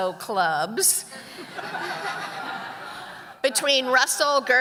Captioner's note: audience laughing